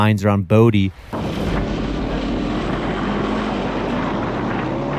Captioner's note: engine revving